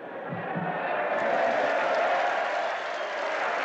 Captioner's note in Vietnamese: Tiếng reo hò, vỗ tay